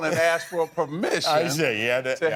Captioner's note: laughter